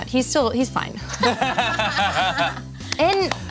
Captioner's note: everyone laughs